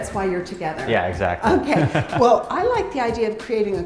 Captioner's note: chuckles